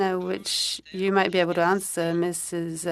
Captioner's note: speaking in French